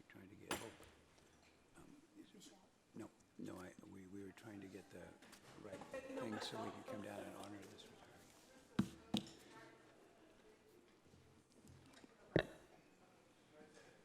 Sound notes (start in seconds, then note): 9.1 people chattering